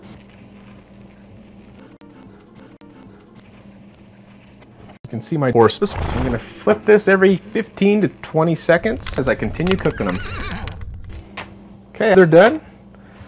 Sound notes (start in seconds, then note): 8.9 horse whinny